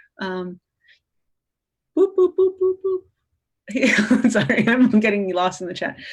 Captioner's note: laughter